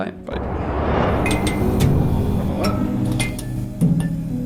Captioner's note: clinking noises